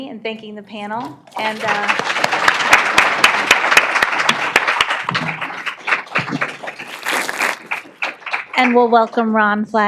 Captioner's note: applause